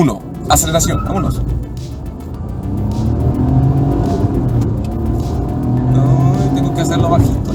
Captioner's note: engine revving